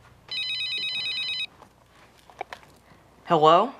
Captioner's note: phone ringing